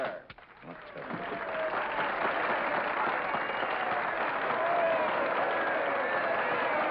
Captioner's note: audience cheers and applauds